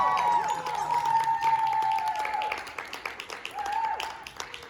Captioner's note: applause